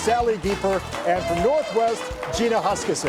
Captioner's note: audience applauds